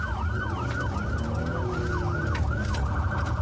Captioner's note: engine guns